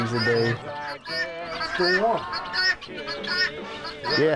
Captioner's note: chickens clucking